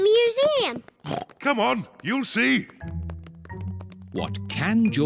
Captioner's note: oinks